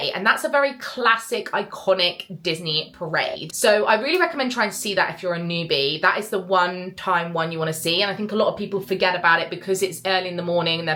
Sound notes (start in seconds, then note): none